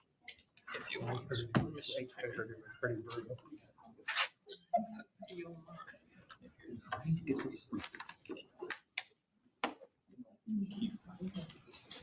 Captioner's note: laughter